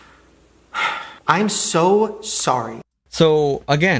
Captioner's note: sighs